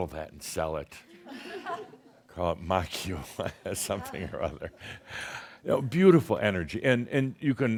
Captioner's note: chuckles